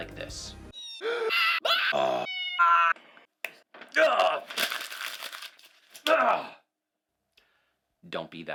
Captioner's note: screams of person looking at invoice